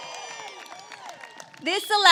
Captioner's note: applause